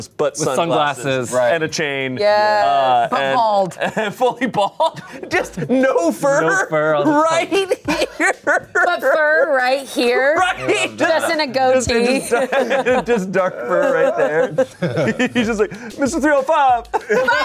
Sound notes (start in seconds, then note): 7.0 laughs